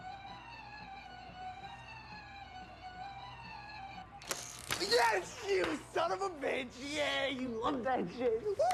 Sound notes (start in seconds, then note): 4.2 electric buzzing